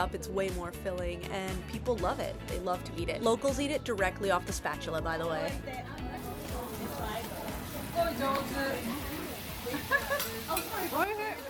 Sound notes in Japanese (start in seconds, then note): 4.2 食べ物のジュージュー音; 5.1 人々のおしゃべり